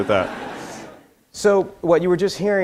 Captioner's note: audience laughter